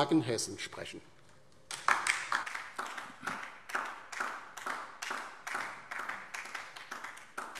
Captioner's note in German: Beifall DIE LINKE